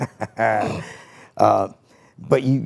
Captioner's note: Rey Mysterio chuckling